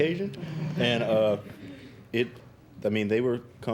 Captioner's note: students chuckling